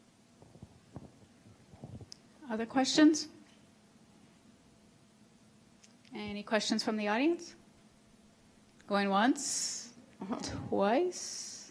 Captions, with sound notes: - [Voiceover] Other questions? Any questions from the audience? Going once, twice.